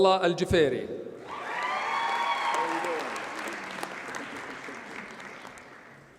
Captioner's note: audience cheers and applauds